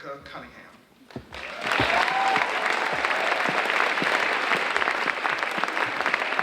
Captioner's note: audience cheering and applauding